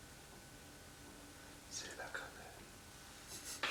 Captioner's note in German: flüster